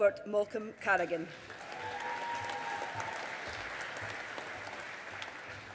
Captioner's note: audience applauding